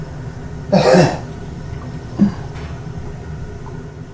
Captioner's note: Miles coughs